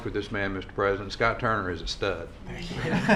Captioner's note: laughter